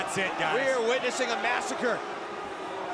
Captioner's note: crowd chatter